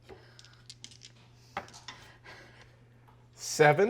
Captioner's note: dice rolling